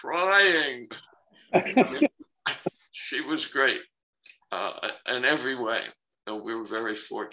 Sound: laughter

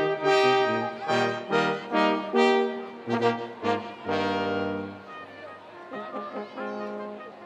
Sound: students cheering

